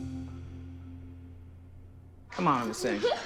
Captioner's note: giggles